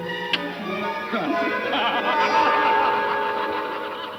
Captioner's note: all laughing